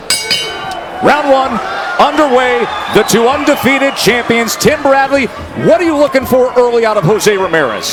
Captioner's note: bell rings